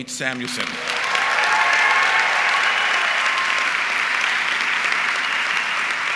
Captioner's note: audience clapping and cheering